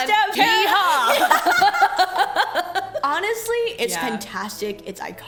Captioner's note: laughs